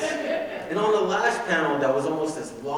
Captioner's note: audience laughing